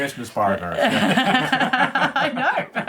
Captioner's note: both laugh